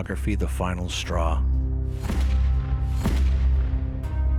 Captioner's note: gun firing